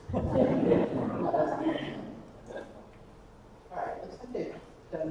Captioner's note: attendees laughing